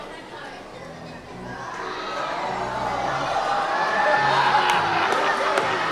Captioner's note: audience chattering continues